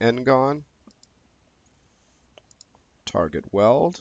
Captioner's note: mouse clicking